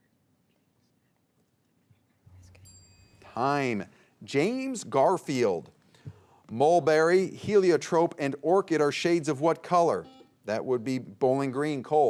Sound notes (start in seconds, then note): 2.3 bell dings; 10.2 buzzer beeps